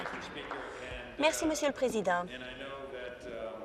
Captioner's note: applause